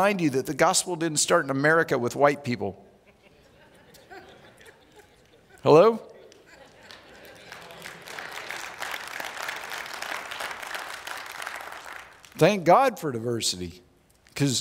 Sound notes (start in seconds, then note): 3.0 audience laughs; 6.2 audience applauds